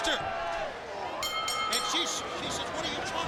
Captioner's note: bell rings